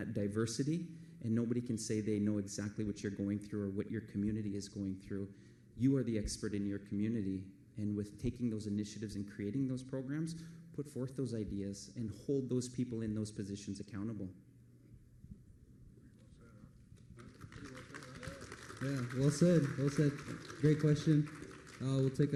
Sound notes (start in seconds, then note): 18.9 applause